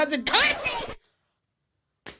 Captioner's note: record scratch